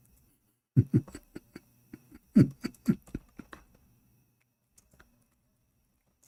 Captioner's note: Ketawa